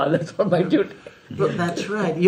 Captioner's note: laughs